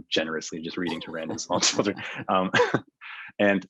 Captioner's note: laughing